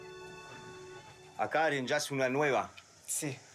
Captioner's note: Portuguese spoken audio